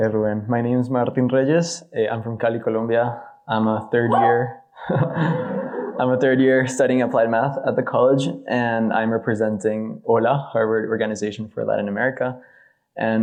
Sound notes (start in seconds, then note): 4.7 audience member screaming; 4.9 audience laughing